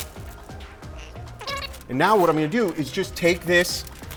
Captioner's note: fast forward squeaky sound